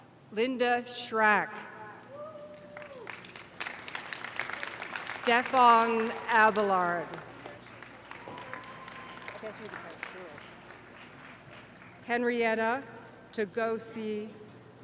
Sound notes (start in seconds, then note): 7.0 cheers and applause